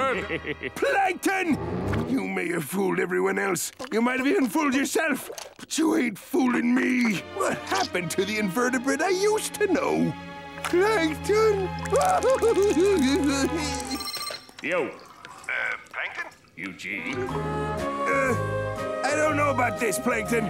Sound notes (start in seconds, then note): 11.9 crying; 13.9 ringing